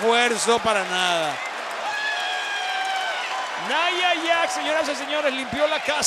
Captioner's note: applause